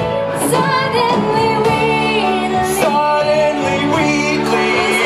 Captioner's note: echoes